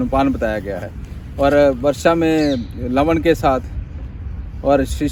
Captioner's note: rain